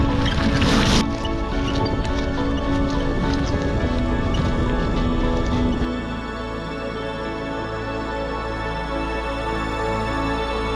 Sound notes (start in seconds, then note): 4.1 waves crashing; 7.9 ethereal music